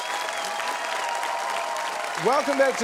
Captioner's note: cheering, applause